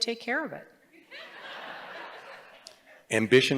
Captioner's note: laughter